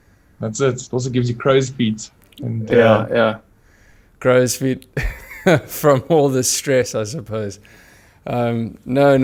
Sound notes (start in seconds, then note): 2.7 laugh